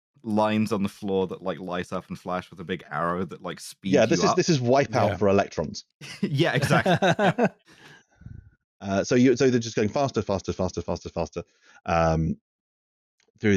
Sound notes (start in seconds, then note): 6.0 laughs